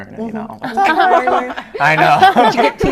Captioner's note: laughter